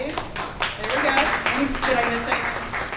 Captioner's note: audience applauds